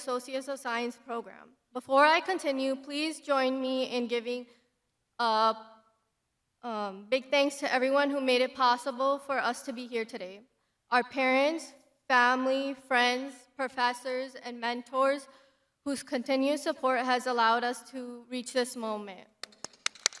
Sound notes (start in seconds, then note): 16.2 crowd applauding